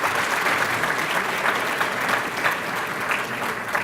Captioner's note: applause